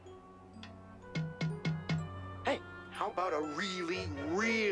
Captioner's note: tapping